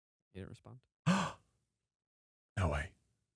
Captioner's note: gasps